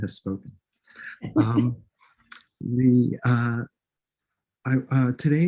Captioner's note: chuckles